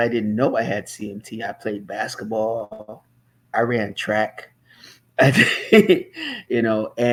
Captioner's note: laughs